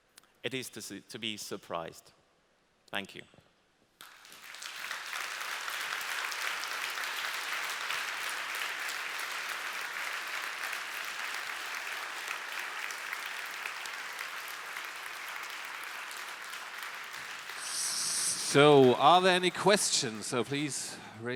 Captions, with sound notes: it is to be surprised. Thank you. (Applause) Are there any questions?